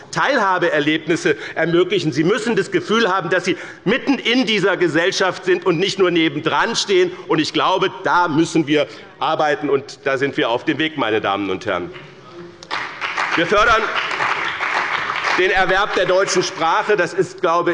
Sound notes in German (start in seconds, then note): 12.6 Beifall bei dem BÜNDNIS 90/DIE GRÜNEN und der CDU